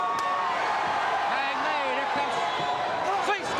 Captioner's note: crowd cheering